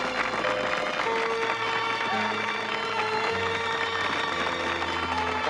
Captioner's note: applause